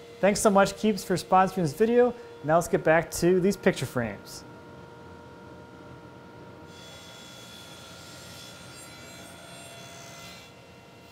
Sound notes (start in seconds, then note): 6.6 table saw buzzing